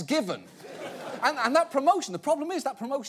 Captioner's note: audience laughing